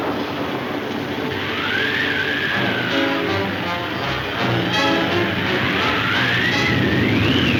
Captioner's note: wind howling; dramatic music